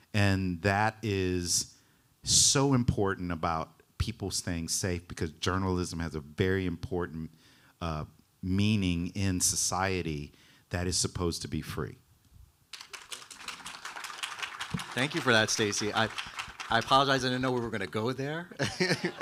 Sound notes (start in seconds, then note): 12.7 audience applauding; 18.5 laughing